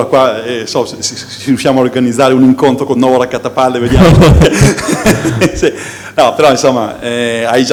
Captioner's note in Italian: risate